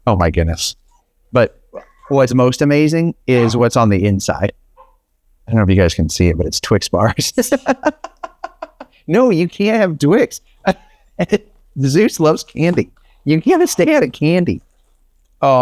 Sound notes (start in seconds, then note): 7.0 laughs; 11.2 laughs